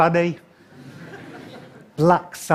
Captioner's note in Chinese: 笑聲